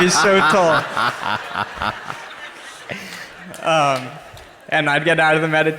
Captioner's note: Dr. Dispenza laughs; crowd laughs